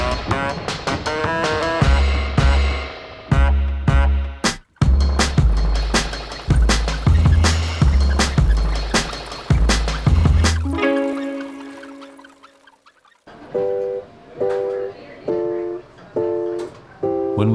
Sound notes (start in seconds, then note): 0.0 upbeat music continues; 5.1 wheels squeaking; 10.1 upbeat music ends; 13.2 students chatting; 13.7 cheerful music